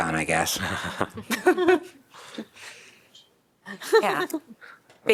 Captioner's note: laughter